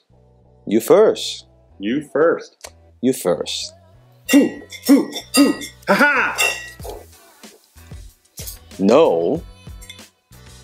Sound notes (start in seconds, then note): 4.1 aggressively grunts